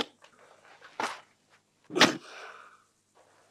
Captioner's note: thud